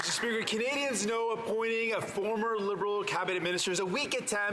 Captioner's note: some Applause